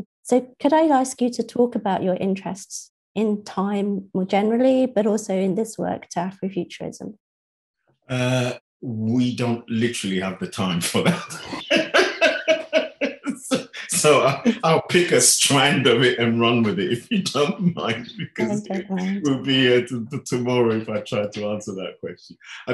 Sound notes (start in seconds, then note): 12.4 laughing; 18.2 laughing